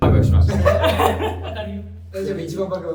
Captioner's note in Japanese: 笑い声